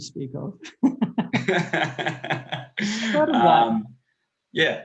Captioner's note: both laughing